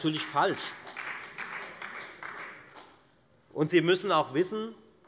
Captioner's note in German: Beifall bei der FDP und der LINKEN